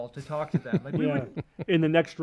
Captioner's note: laughs